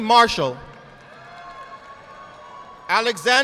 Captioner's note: audience applauding